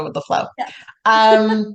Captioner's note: laughs